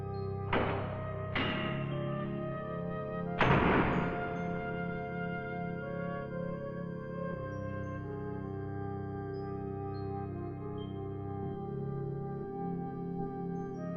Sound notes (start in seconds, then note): 3.4 loud banging